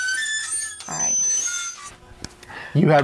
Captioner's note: squeak sound; slap sound